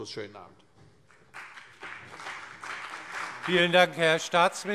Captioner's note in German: Beifall CDU und BÜNDNIS 90/DIE GRÜNEN